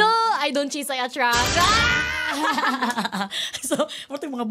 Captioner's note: laughter